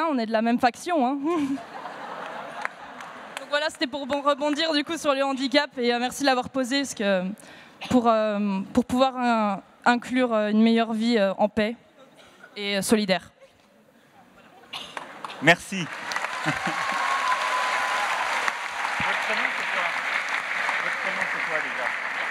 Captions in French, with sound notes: on est de la même faction. (Rires) Voilà, c'était pour rebondir, du coup, sur le handicap, et merci de l'avoir posée, pour pouvoir inclure une meilleure vie en paix et solidaire. (Rires) -Merci. (Applaudissements) Votre prénom, c'est quoi ? Votre prénom, c'est quoi, déjà ?